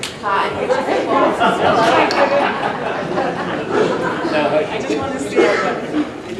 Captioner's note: laughing